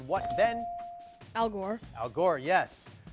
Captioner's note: bell dings